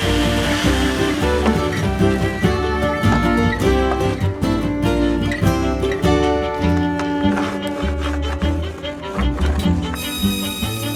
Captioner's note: saw buzzing